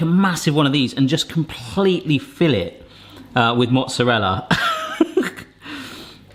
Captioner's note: laughs